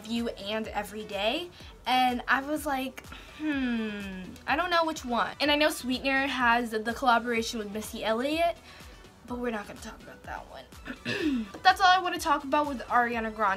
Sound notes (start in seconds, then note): 10.8 clears throat